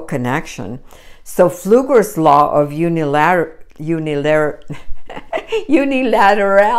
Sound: laughs

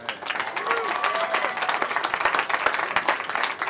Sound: cheering

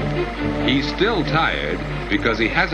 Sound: voiceover

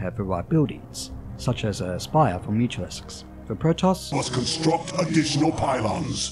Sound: Protoss advisor voice

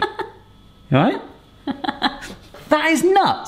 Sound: chuckling

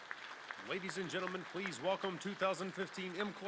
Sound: crowd applauds; voiceover

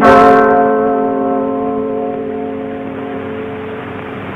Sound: bell ringing

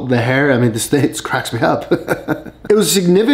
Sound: laughs

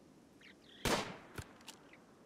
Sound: gunshot

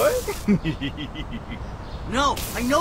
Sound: laugh

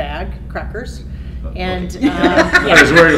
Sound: laughter

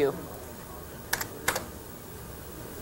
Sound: keyboard clicks

